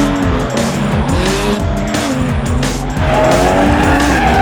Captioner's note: engine revs; tires squealing